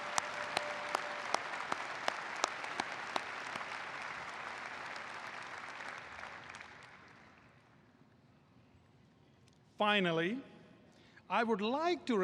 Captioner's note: applause